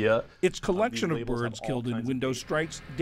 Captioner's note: voice-over